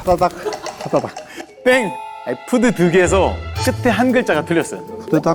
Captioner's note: haha